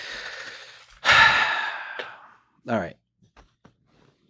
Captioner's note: sighs